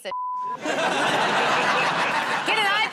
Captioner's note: laughter